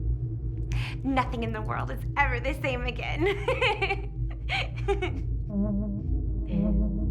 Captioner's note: laughing; eerie music